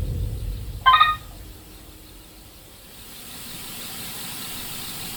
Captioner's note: footstep tracker beeps